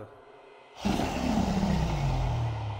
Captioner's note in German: Drachen Sprache